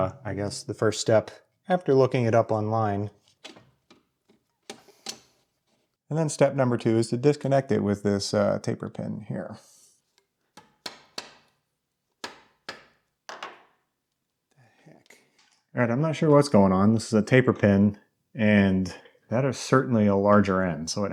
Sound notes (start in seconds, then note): 4.6 metal clicking; 12.2 hammer smacking; 12.2 hammer thuds